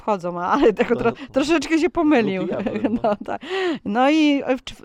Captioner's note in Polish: śmiech